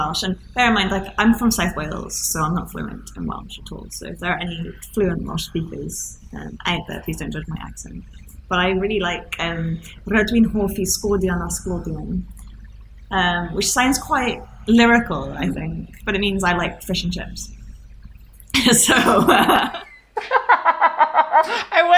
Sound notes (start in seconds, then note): 10.3 speaking Welsh; 20.1 laughing